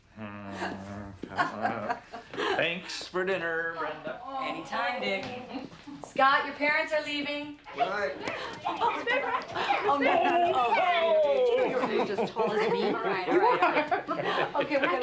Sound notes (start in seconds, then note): 1.2 marilyn laughs; 7.7 children chattering; 12.9 laughing